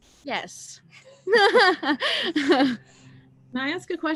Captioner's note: chuckles